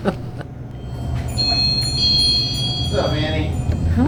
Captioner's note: laughing; bell ringing